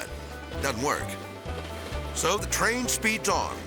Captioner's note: light banjo music; train rustling